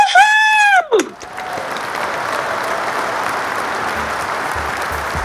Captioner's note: cheers, applause